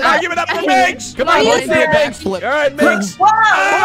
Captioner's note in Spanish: woooo